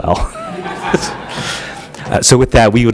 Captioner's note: laughter